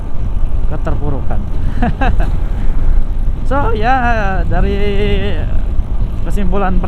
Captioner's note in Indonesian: tertawa